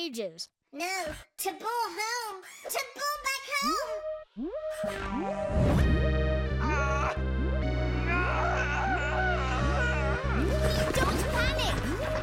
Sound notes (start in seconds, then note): 4.0 beeping; 5.2 sinister music